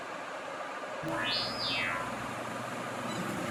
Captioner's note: teleport sound